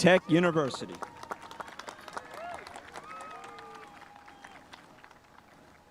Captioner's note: spectators applauding